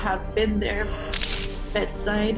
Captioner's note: image crackling